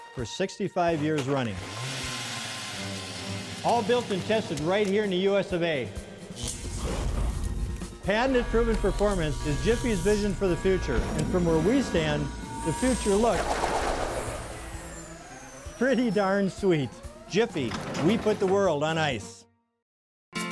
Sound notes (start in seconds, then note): 1.0 auger motor; 6.6 flame